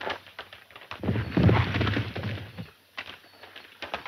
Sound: horses galloping

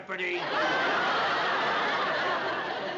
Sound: laughter

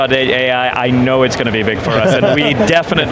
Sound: group laughs

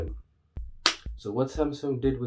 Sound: slap

